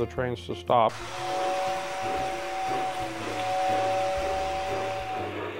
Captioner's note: train whistle blowing